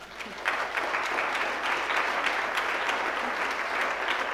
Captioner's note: audience applauds